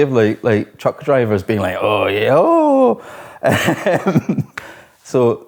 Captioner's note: laughs